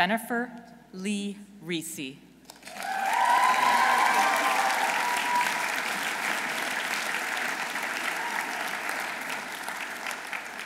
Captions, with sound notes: Dr. Jennifer Lee Risi. -(audience cheering) -(audience applauding)